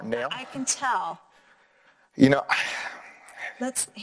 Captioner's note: sighing